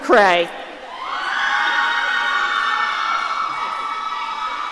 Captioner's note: audience cheering